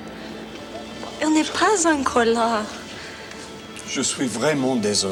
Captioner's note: Jilly speaks French; John speaks French